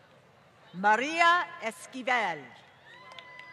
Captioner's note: applause